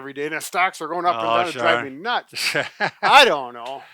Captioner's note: laughter